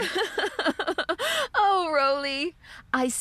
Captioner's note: laughing